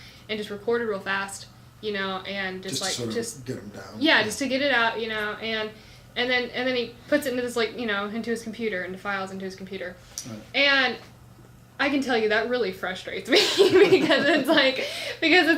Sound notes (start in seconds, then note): 13.4 laughs